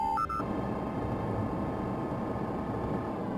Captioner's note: beeping